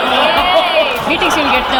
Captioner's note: groans